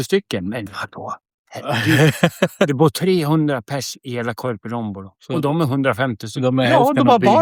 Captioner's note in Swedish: skratt